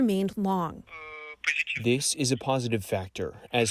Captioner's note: through translator